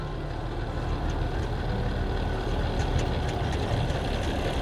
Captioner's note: truck engine